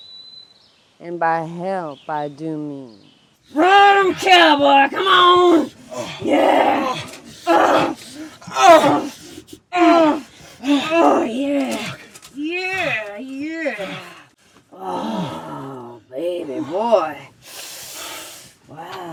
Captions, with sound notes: And by help, I do mean... Ride 'em, cowboy! Come on! Yeah! (both grunting) Oh, yeah! Yeah, yeah! Oh, baby boy.